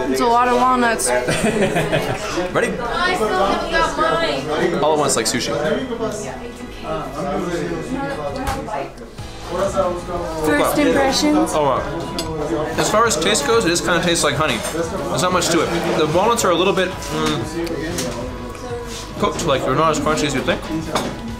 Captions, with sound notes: - It's a lot of walnuts (laughing) - Ready? All at once like sushi. - First impressions? - As far as taste goes, it is kind tastes like honey. There's not much to it. The walnuts are a little bit, cooked. They're not as crunchy as you'd think.